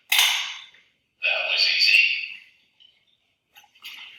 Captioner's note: clanking